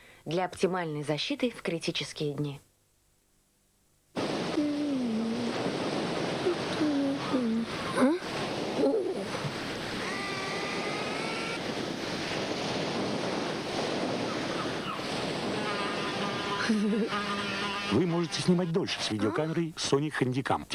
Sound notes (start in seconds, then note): 4.0 exclamations; 4.1 sea noise